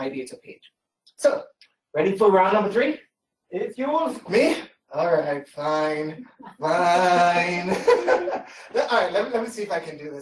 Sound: laughter

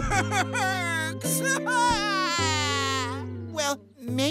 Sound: crying

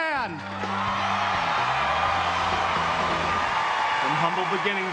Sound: crowd cheering

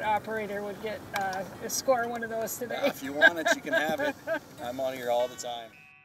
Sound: laughing

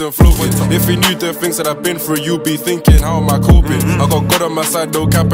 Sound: hmm hm

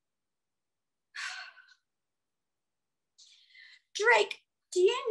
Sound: sighs

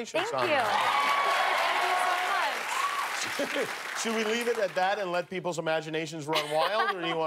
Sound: cheers and applause

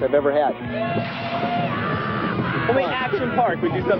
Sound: rider screaming

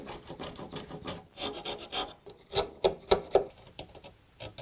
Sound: tools scraping

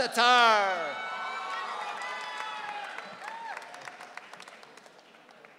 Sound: audience cheering

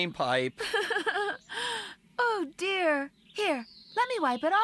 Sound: giggling

